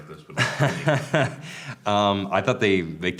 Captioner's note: laughs